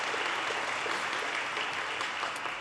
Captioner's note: audience cheers and applause